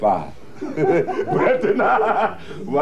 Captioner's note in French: rires